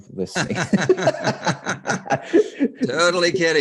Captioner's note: laughing